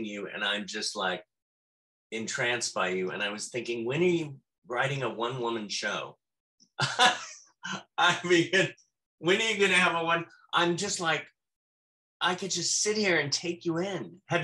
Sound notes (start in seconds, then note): 6.8 laughs